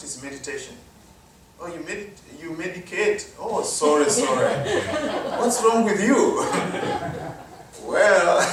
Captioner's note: laughter